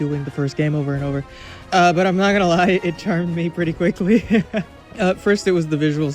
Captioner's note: laughs